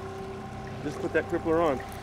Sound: trolling motor humming

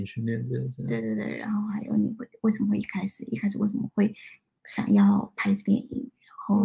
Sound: speaks mandarin

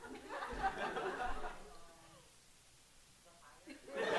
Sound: audience laughing

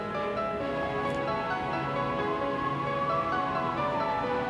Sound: siren wails

